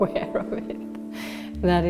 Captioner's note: laughs